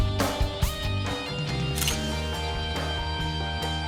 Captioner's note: camera shutter sound